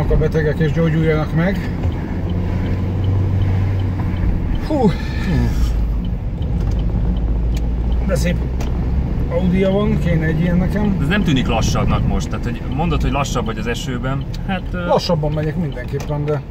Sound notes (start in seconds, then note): 4.8 sigh